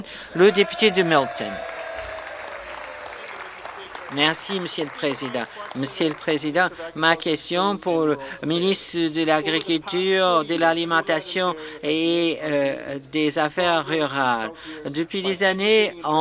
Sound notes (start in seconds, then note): 0.4 some Applause